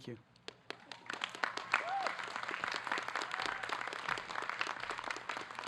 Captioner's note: audience clapping